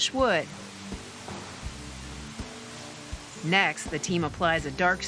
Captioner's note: spray whirring